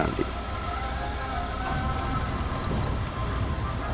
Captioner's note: stall warning sounds